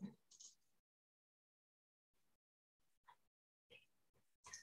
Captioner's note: computer mouse clicking